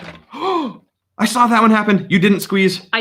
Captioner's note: can crunches; gasps